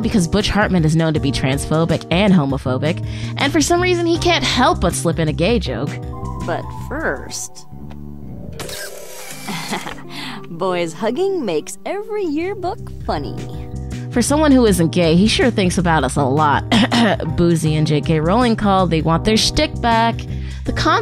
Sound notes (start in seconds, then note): 8.6 snaps picture; 16.7 cough cough